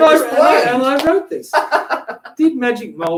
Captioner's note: laughs